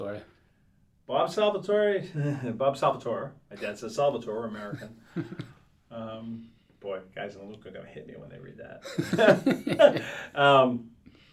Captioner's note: laughs